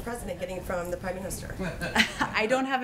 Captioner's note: laughs